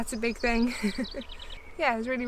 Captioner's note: laughs